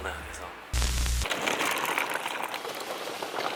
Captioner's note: clattering